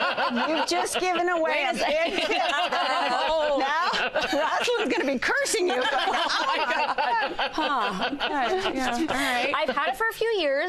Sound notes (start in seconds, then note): 6.5 laughter